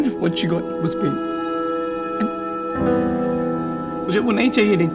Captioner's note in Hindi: none